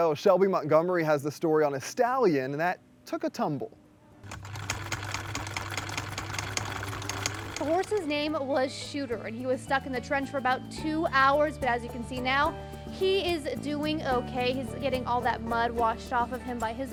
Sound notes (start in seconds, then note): 4.2 sewing machine whirring